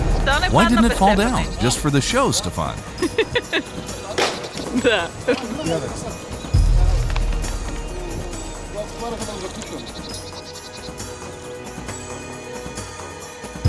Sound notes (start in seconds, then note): 3.1 laughing; 6.8 drivers chattering; 6.8 soft music